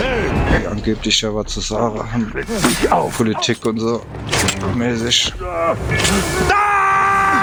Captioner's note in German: schreien